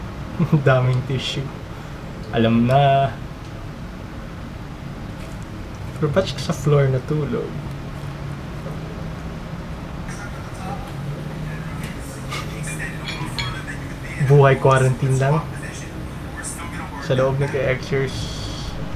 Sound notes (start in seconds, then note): 12.2 snickers